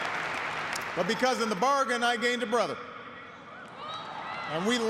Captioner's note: cheers and applause